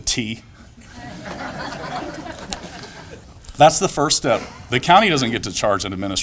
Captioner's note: laughter